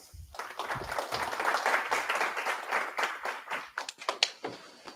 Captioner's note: applause